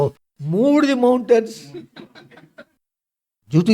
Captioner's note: laughs